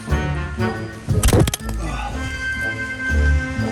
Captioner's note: clicks